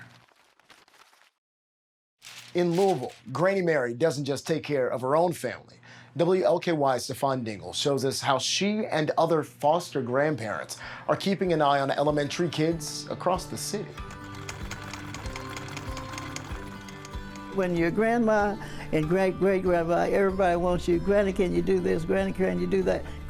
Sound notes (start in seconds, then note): 0.2 paper rustling; 14.0 sewing machine whirring